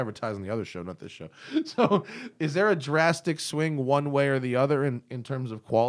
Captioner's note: laughter